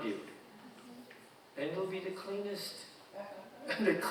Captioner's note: audience chuckling